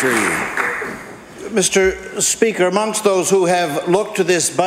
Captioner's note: applause